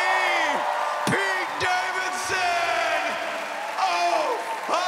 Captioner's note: audience cheers